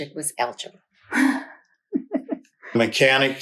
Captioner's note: laughs